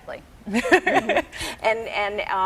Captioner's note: laughing